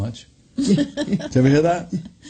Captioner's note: laughs